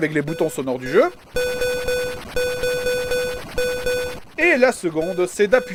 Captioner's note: repeated Beeps